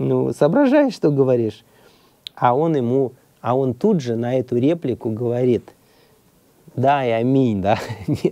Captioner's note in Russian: смех